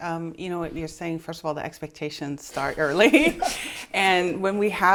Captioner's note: laughs